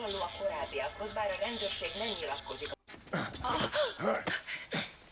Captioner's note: moaning and groaning